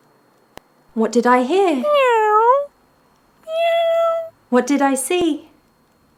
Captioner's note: miaow